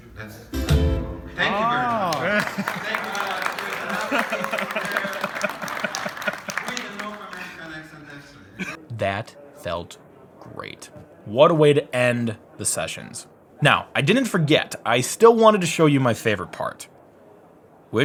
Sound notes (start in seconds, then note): 1.4 crowd claps; 3.7 laughs